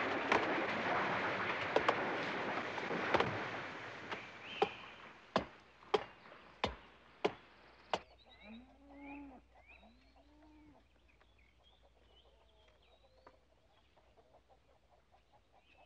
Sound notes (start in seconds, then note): 0.0 trees rustling; 3.9 ax chopping; 8.7 cow mooing